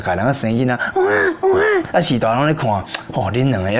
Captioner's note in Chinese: 小孩哭聲